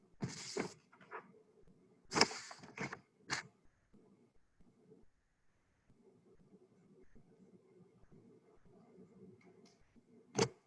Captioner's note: silence